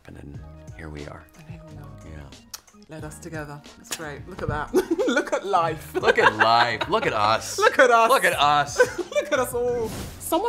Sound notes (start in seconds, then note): 4.7 laughter